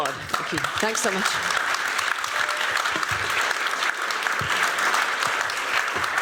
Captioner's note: applause